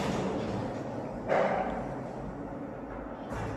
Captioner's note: clank